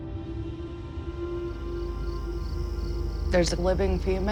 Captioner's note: crickets chirping